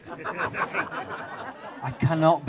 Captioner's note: audience laughter